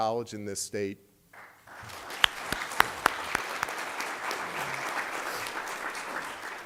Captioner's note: applause